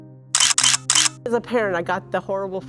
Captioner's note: camera shutter clicking